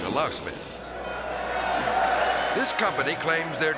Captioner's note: audience cheering